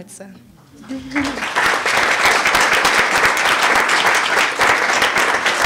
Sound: applause

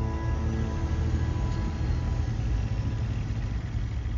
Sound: truck engine rumbling

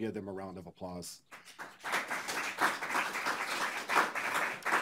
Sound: audience applauds

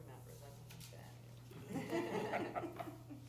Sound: laughter

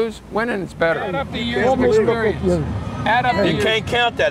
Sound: ushers chatting

